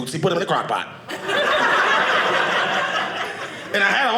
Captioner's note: audience laughing